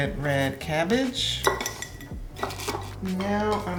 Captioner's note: jars clanking